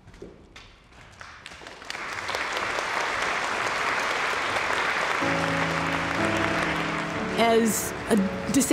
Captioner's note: whispering; crowd applause